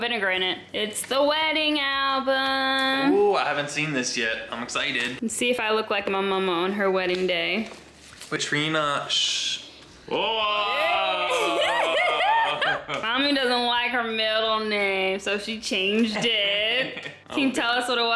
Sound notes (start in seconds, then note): 9.7 pops; 10.2 laughing